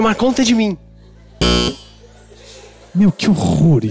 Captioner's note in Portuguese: campainha